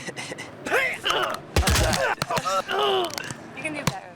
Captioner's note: laughing; grunting